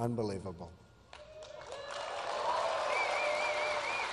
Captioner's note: applause